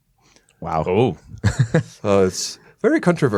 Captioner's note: chuckle